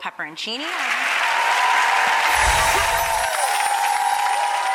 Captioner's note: audience applauding